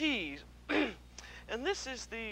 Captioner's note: clears throat